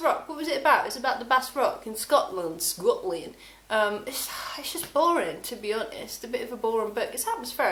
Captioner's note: in Scottish-ish accent